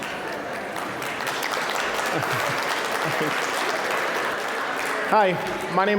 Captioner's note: applause; general chatter